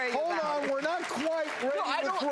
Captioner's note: audience applauds